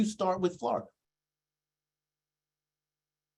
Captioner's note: silence